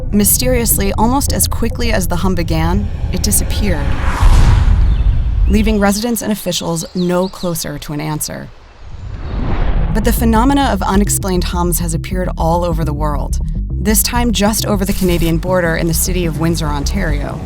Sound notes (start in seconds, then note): 4.8 birds chirping